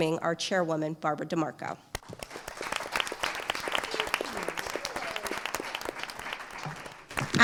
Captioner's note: applause